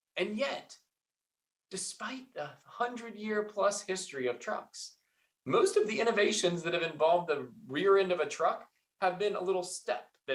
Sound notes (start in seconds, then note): none